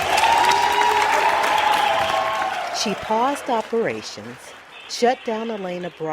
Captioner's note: noise of announcement and cheering